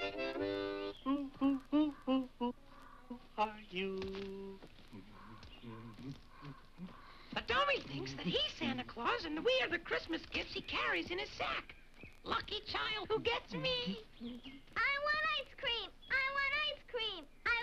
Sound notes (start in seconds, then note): 4.5 Dunderklumpen hums